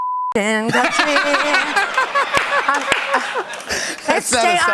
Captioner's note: laughter